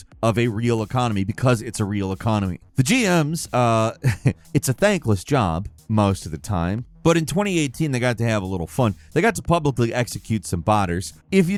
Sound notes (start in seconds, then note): 3.9 chuckles